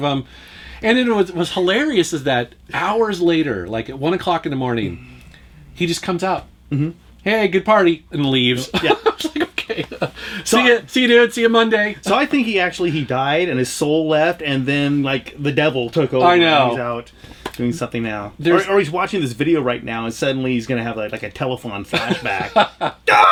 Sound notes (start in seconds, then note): 8.7 laughs